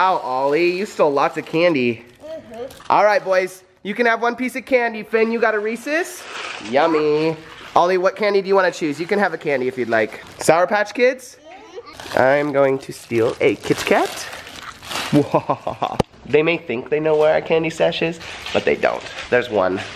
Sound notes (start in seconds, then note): 15.1 laughs maniacally